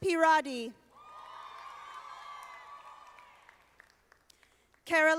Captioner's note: audience applauding